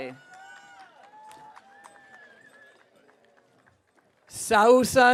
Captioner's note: audience cheering